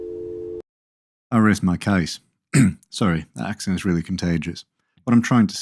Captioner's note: cough